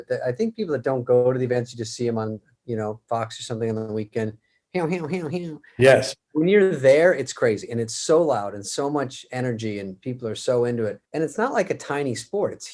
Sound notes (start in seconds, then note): 4.4 David mimics NASCAR